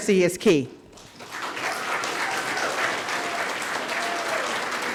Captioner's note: audience applauding